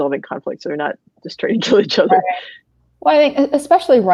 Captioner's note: laughs